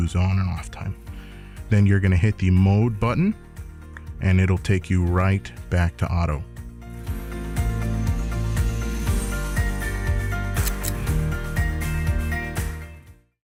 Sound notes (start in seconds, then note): 10.6 click